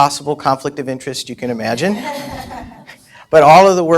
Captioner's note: laughter